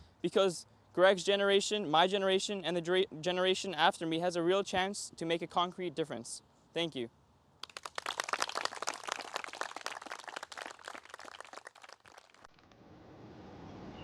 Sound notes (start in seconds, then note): 7.6 audience applauding